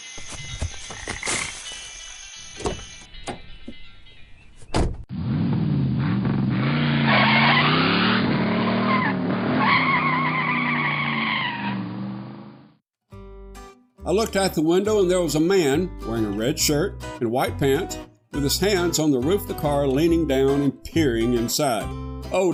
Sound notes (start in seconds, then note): 0.2 running footsteps; 4.6 car door opens and slams; 5.2 car revs engine and peels off in an impressive display of terror